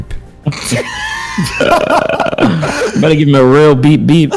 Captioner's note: laughing